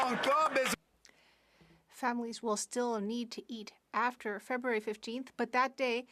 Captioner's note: some Applause